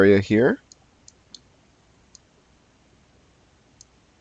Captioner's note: mouse clicking